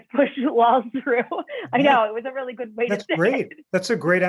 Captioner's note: laughter